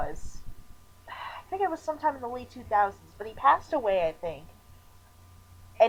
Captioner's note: sighs